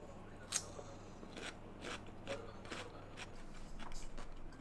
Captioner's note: crunch crunch